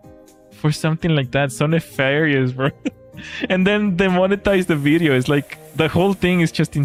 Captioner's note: laughter